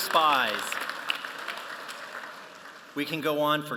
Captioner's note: applause